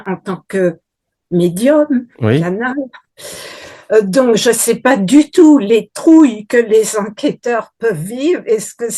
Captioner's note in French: grognement